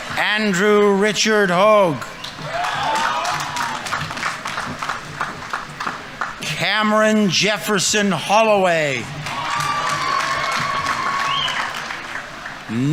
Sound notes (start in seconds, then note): 4.0 audience applauding; 9.3 audience applauding; 9.3 audience members cheering